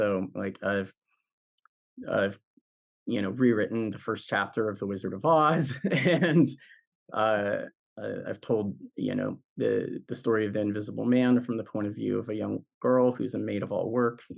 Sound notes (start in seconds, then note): 5.6 laughs